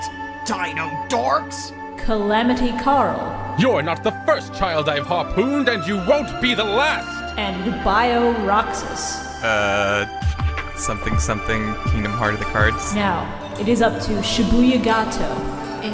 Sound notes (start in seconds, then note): 0.0 Rex Raptor voice; 3.4 Mako Tsunami voice